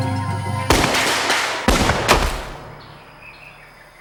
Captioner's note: gun fires